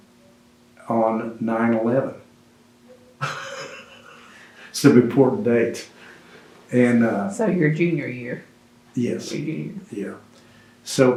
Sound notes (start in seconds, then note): 3.1 laughs